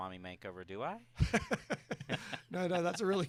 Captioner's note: chuckling